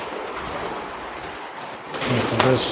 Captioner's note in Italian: Applauso